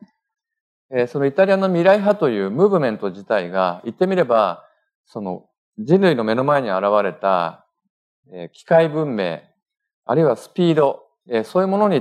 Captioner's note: speaking japanese